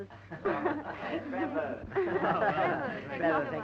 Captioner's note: chattering